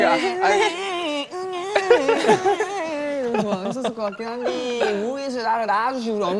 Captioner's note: cries like a baby